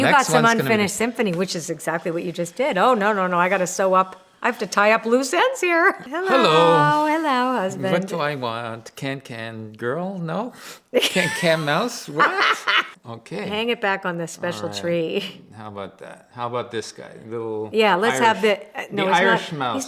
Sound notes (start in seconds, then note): 12.1 laughs